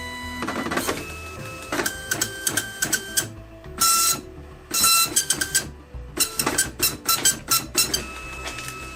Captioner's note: printer sounds